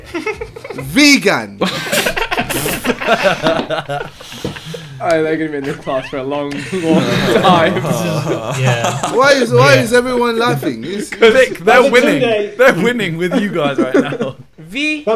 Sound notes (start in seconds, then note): 1.6 students laughs; 6.5 students murmur